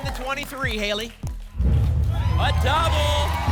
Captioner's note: rumbling sounds